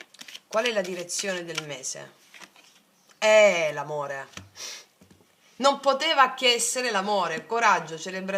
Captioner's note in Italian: sbuffare